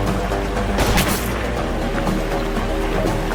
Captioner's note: gunshot